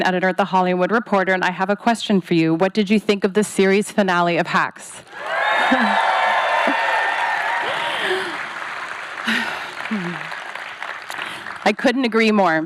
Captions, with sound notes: at "The Hollywood Reporter," and I have a question for you. What did you think of the series finale of "Hacks"? -[audience cheers] -[chuckles] [sighs] I couldn't agree more.